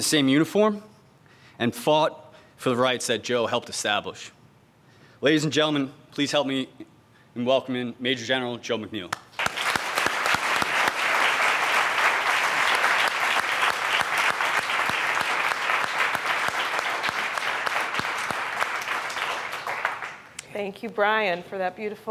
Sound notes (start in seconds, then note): 13.1 audience applauds